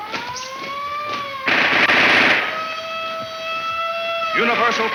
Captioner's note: siren blaring; guns firing